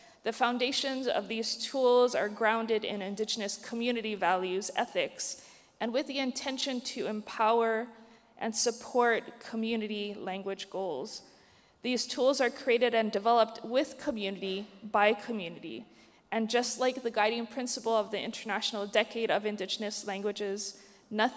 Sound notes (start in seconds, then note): none